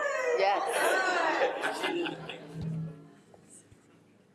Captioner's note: audience awing